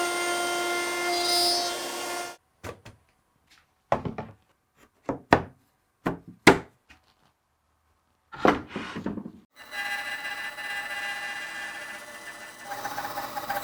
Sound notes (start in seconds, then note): 3.9 boards clattering; 9.5 saw buzzing